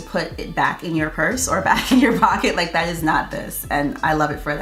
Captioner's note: laughs